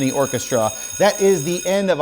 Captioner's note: bell ringing